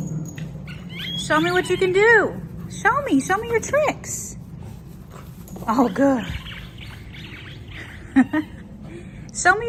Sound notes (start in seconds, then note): 0.8 toy squeaking; 7.0 toy squeaking; 7.6 laughing